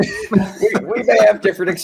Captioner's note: both laughing amusingly